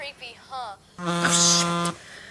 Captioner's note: tablet ringing